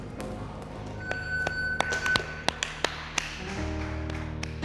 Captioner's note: timer beeps; applauding